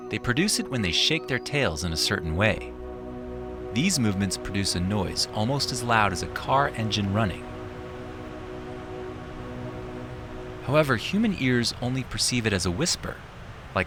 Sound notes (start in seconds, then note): 7.9 tail whooshing